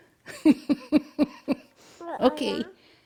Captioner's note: laughing